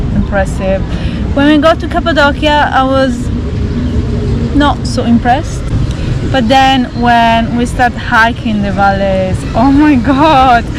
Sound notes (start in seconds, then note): none